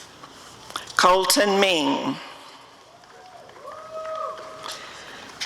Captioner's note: audience cheering